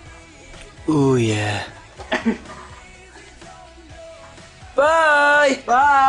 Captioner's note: laughs